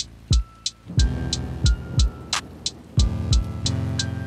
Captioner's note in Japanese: げきてき な かみなり